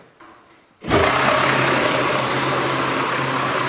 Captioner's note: loud machine rattling